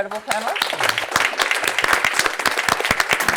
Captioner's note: applause